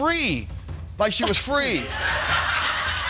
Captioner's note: audience laughs